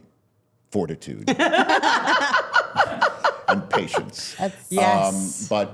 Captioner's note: laughing